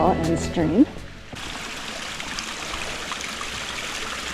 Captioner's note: rushing water and babbling brook